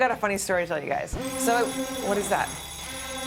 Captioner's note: alarm sounding